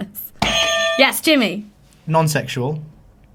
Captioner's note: buzzer sounds